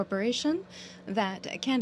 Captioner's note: speaking french